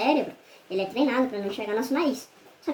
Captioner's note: high pitched voice; high-pitched voice